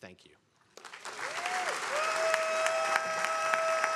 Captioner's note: attendees applauding